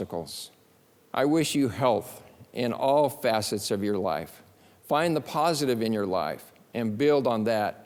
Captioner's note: none